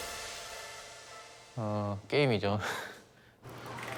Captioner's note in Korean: 웃음